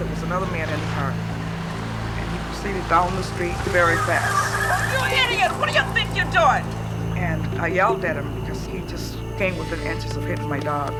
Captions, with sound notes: was another man in the car. And he proceeded down the street very fast. [TIRES SQUEALING] You idiots! What do think you're doing? And I yelled at him because he just came within inches of hitting my dog.